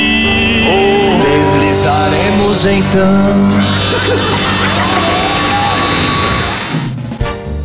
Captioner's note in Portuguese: campainha e aplausos